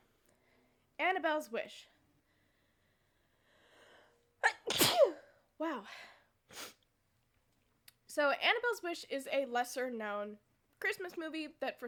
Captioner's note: sneezes